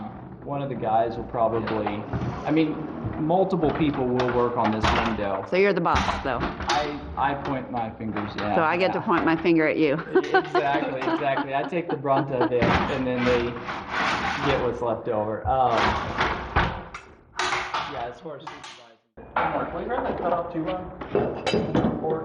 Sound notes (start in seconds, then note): 9.8 laughing